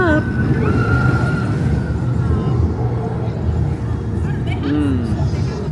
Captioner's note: people scream on rollercoaster